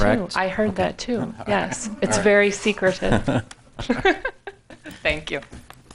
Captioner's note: laughs